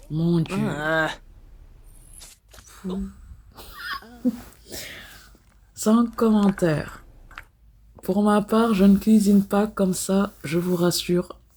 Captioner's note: laughs